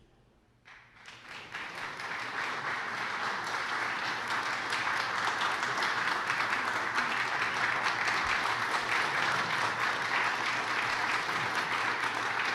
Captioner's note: applause